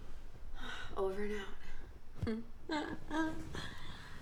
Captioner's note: chuckles